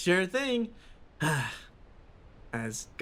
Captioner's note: sigh